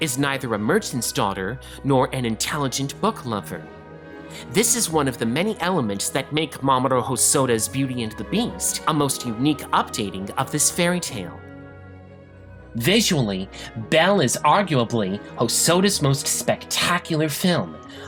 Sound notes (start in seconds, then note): none